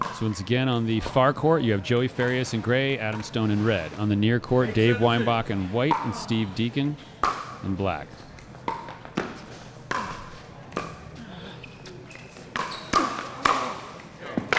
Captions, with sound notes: So, once again on the far court, you have Joey Farias in Gray, Adam Stone in red. On the near court, Dave Weinbach in white and Steve Deakin in black. (ball being hit) (shoes squeaking)